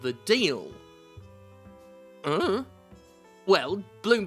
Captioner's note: confused sounds of I dunno